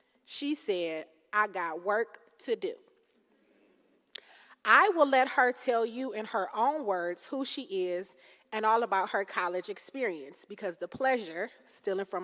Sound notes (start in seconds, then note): none